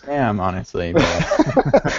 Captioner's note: laughter